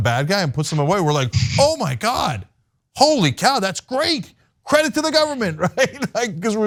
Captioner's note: laugh